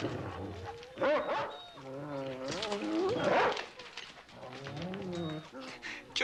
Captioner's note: dogs barking